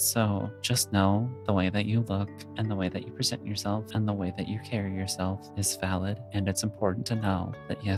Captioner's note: none